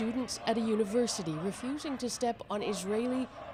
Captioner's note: chants